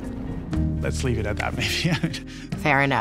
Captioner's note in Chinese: 笑聲